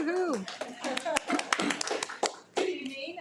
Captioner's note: attendees applaud